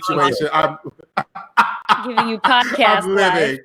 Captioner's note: laughing